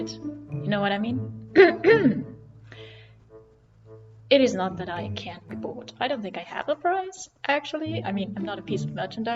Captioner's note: clears throat